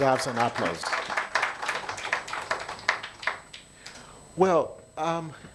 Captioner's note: attendees applauding